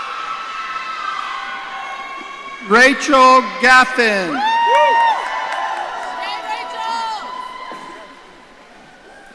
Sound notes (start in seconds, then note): 4.5 audience cheering